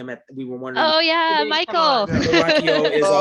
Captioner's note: laughter